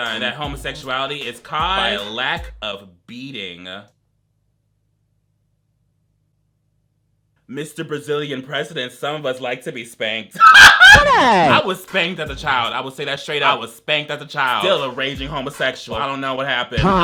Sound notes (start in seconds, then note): 10.4 laughs